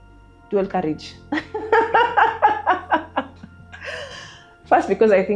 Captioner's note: laughs